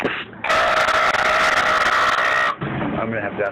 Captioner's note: screams